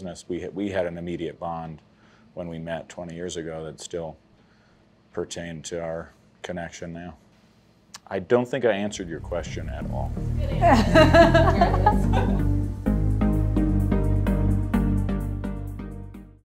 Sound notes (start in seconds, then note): 10.4 laughter; 10.6 upbeat music